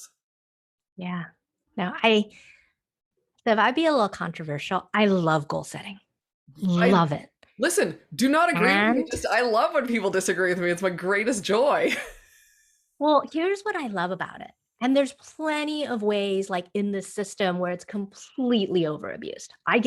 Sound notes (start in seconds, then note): 11.8 laughing